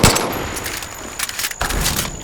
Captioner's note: gun firing